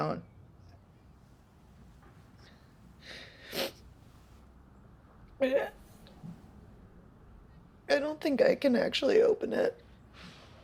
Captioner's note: sob